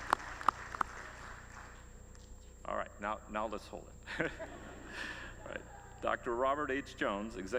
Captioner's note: applause